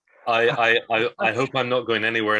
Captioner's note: laughing